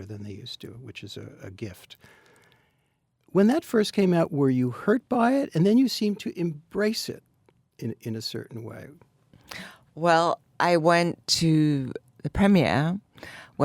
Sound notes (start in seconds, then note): none